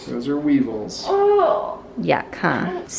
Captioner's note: groans